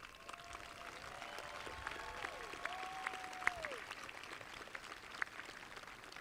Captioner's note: audience applauding; audience cheering